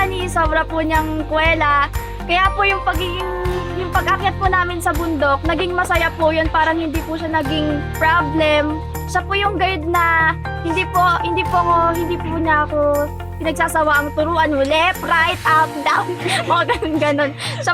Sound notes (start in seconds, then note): 16.2 laughing